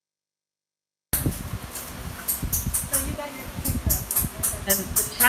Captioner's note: tapping